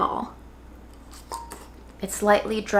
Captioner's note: bowl clinks; slaw crunching